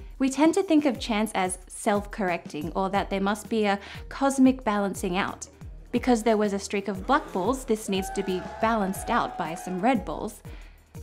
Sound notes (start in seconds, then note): 7.8 crowd cheering